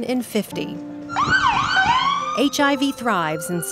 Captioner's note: siren wails